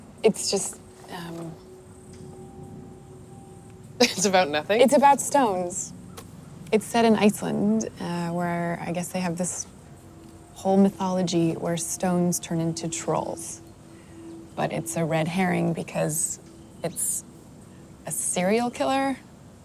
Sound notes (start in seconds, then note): 0.0 scoffs; 4.1 laughs